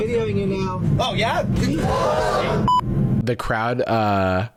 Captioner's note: crowd gasp